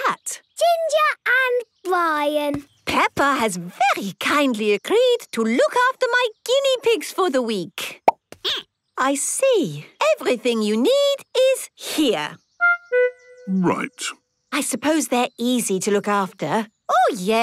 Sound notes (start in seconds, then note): 7.6 squeaking